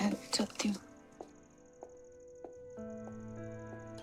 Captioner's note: footsteps